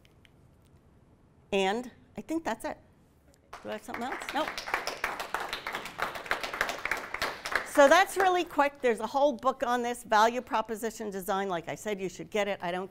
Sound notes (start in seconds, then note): 3.5 applause